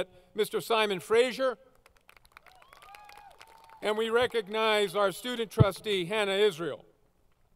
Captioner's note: applause